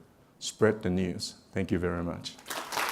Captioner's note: applause